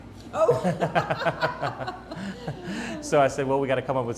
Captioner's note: laughing